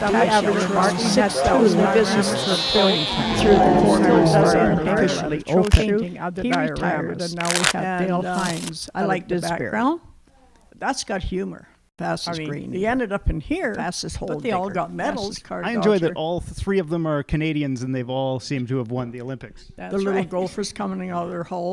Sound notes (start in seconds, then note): 0.0 fair noises; 3.3 bellowing dinosaur; 8.2 cards shuffling